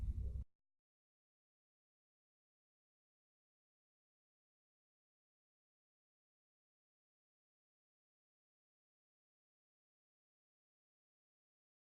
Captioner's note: no audio